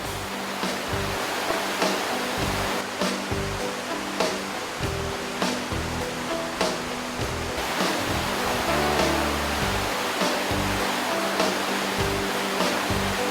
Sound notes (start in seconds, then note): 0.2 rock music; 3.0 sound of waterfalls